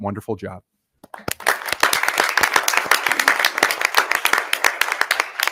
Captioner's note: audience applauding